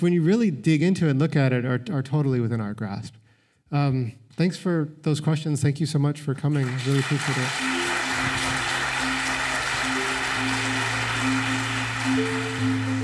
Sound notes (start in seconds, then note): 10.0 applause